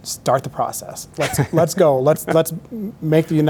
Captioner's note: laughing gently